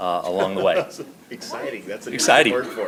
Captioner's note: laughs